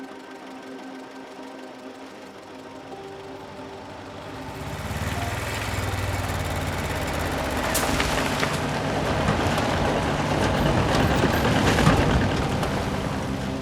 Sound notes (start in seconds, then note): 0.2 gentle orchestral music; 5.4 engine rumbling